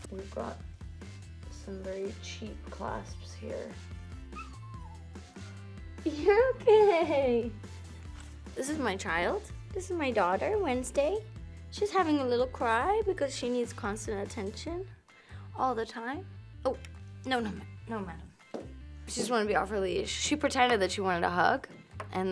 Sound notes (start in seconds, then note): 4.3 Wednesday whines